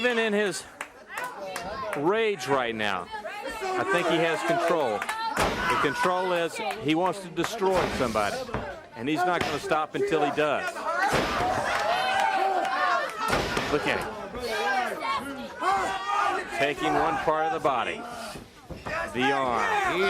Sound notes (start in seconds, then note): 1.1 crowd chatter; 10.9 crowd chatter; 12.9 crowd cheering